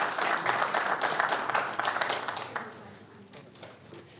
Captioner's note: applause